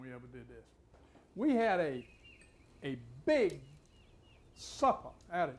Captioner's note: birds chirping